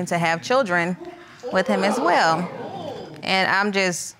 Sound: audience gasping

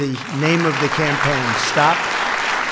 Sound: applause

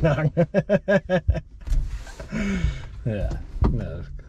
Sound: laughs

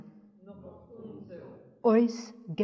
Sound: speaks in Yiddish; audience speaks in Yiddish; speaks in Yiddish

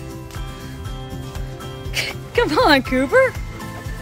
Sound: snickers

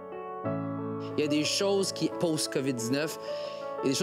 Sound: speaking French

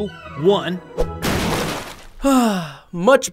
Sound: slurp splashing

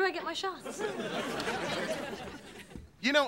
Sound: audience laughing

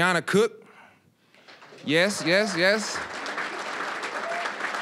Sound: applause

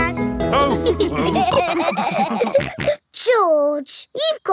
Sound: all laughing

